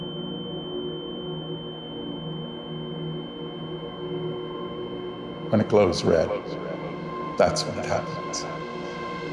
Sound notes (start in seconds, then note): 5.6 echoes; 8.8 echoes